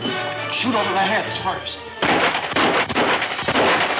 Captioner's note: gunfire pops